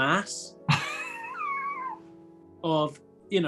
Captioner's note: sniggering